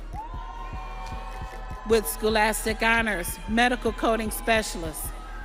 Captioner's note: audience cheering